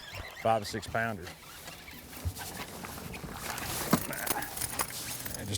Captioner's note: reel spinning